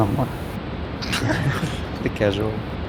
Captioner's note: multiple lols